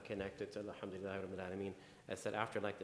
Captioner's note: speaking in foreign language